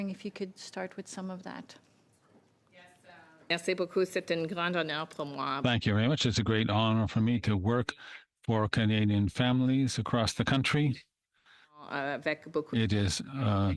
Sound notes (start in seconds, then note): 10.4 speaking French